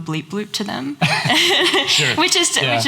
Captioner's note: laughs